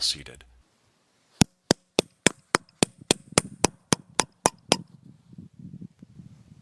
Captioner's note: object tapping